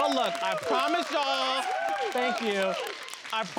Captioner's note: all applauding